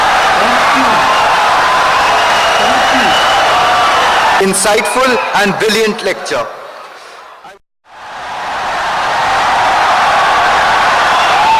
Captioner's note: wild applause and cheering for 17 seconds